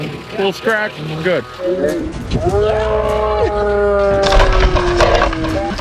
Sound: slow motion screams

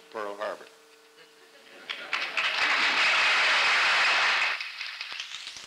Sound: applause

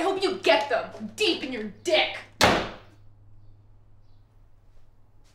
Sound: door slam

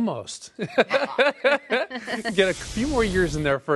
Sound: laughing

